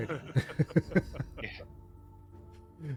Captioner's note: laughing